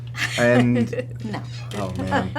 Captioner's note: laughing